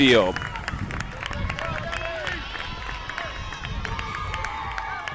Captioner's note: cheering